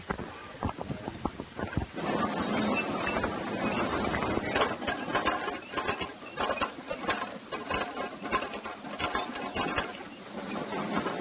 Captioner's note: Potato conveyer machine noise